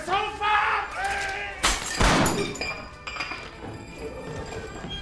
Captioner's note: shouting, gunshot